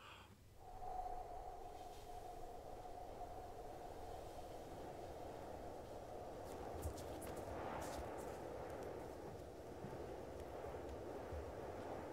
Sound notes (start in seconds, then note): 0.5 soft blowing; 8.2 wind sounds continue